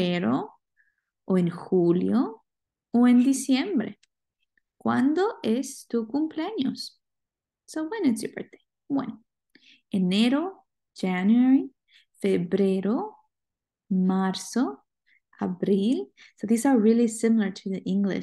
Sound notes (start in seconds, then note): 9.2 speaking spanish